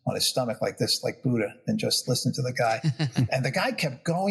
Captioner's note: laugh